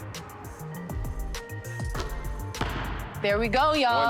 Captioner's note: ball bouncing